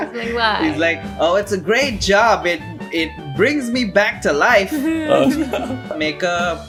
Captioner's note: laughter